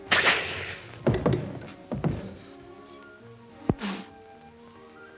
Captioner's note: matchstick crackling; footsteps plodding